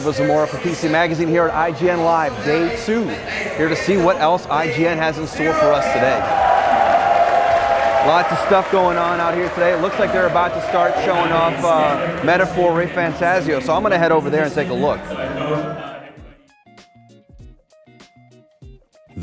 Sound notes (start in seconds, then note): 6.4 crowd cheers; 16.2 funky music